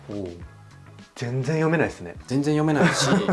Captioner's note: laughs